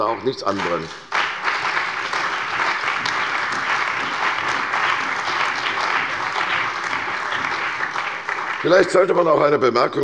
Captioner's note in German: Beifall bei der CDU und dem BÜNDNIS 90/DIE GRÜNEN